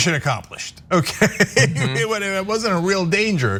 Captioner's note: laugh